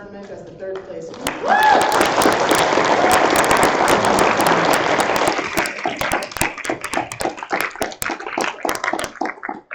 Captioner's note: applause